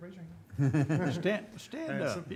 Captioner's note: chuckling